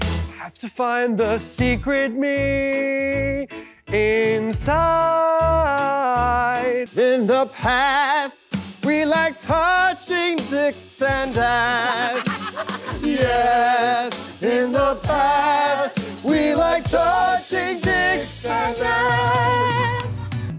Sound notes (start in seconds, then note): 1.0 singing; 11.7 laughing; 14.2 singing